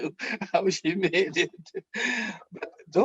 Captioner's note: laughing